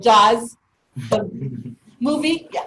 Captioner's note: low laughter